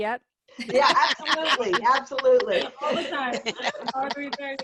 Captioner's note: laughter